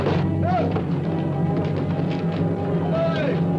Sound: shouting

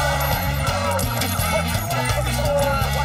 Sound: coins clattering; laughing

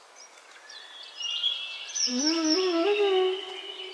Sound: birds chirping

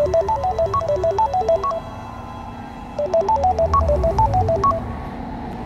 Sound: phone rings

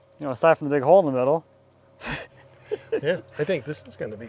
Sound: laughs

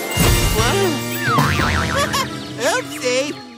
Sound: chuckles

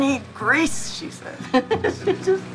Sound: laughing

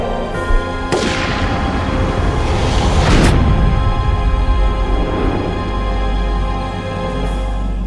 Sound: soft uneasy music; gunfire blasting

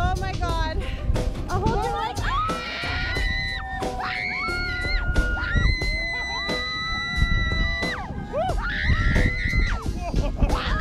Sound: screaming

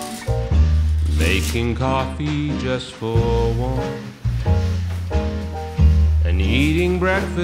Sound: curtains opening; duvet rustling

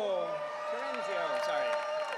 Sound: audience cheering

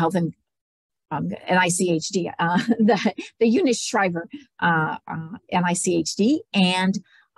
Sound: laughs

